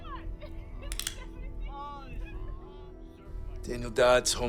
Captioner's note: gun cocks